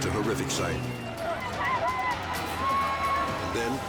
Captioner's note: people screaming